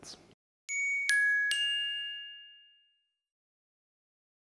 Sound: bells dinging

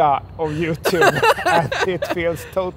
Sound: laughing

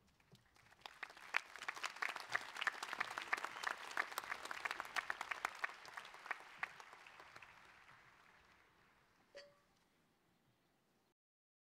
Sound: applause

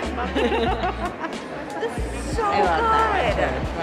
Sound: laughter

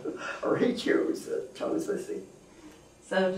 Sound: laughs

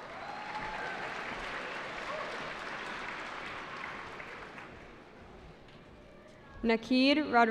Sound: cheering

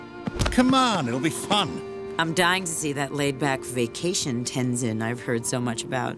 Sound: none

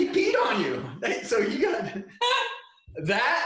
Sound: laughing

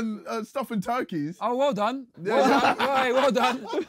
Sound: Sidemen laughing

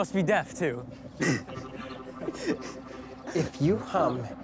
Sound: laughs

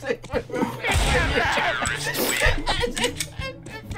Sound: dying of laughter; speaking while laughing

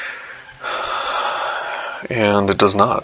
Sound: sighing

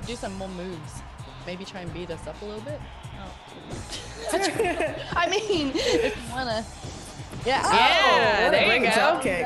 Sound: laugh

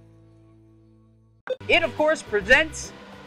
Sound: beep

